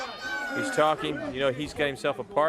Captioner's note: crowd chatter